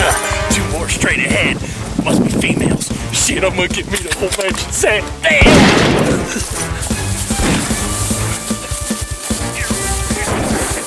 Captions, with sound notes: - Uh, two more straight ahead. Must be females. Shit, I'm gonna get me a whole matching set, damn! (gun shot firing) (action music)